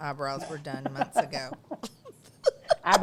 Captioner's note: laughs